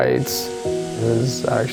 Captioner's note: water running